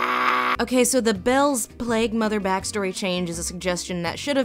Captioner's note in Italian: voce fuori campo